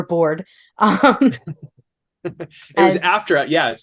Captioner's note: laughs